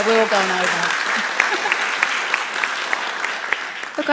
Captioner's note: applauds